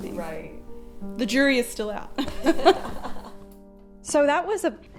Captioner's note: laughing